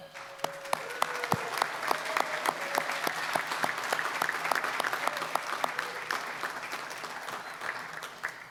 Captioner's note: applause